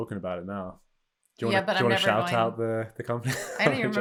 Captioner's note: chuckles